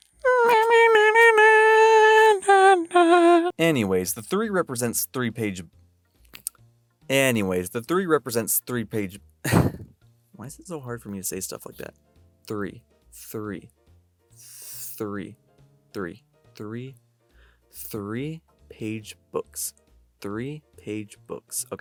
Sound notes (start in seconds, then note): 9.4 chuckle